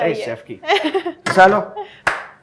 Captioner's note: chuckles; claps